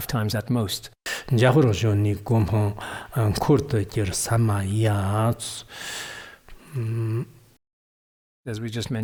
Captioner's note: giving oral transmission in Tibetan